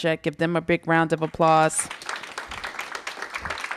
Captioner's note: applause